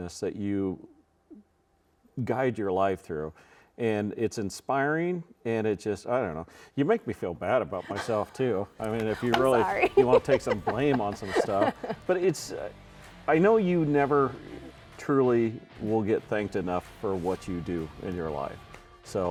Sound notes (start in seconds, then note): 7.8 laughs; 8.8 chuckling